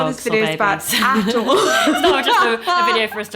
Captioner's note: laughs